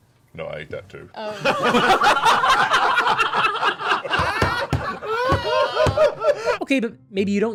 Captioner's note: laughter